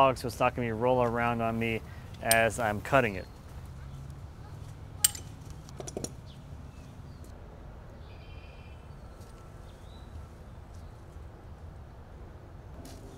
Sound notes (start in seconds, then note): 5.0 clanking; 6.6 birds chirping